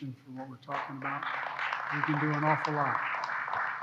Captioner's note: applause